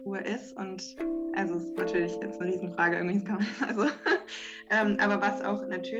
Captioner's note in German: lacht